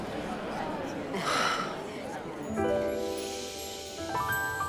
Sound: Sabrina exhales

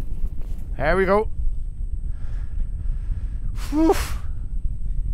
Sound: phew

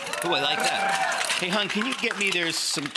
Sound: audience cheering

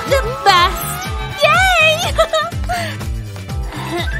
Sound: grunting

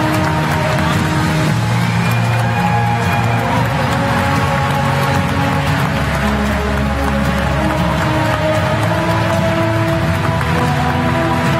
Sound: applause

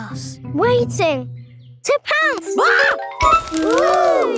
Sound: screams

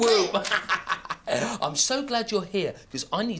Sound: laughs

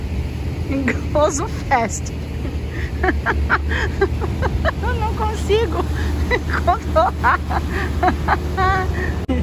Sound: laughs

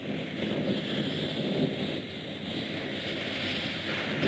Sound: air whooshes

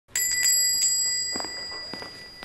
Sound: door bell

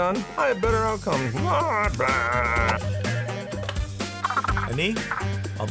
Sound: grumbles; phone rings

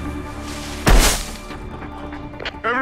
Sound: thuds

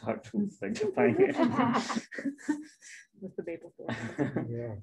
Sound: laughs

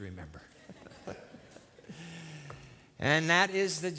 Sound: laughter

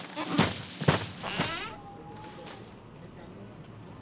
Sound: door opens

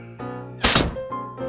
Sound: gunshot

